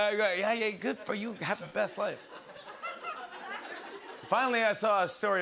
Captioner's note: laughter